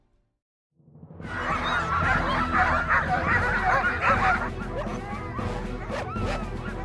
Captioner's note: dramatic music; dogs barking